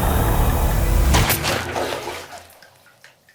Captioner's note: blood squirts; crossbow fires; blood dripping